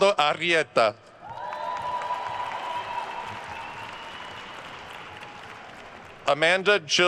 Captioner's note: attendees cheering and applauding